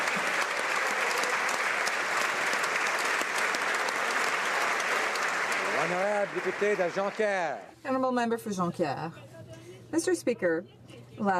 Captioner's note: applause